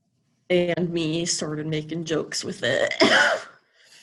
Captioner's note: coughs